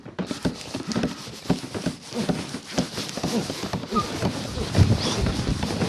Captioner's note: hammering and sawing